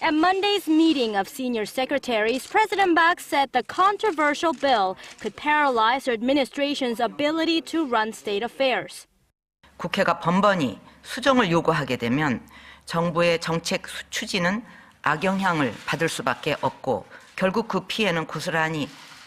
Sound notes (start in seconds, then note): 8.7 Korean